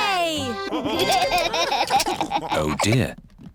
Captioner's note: laughter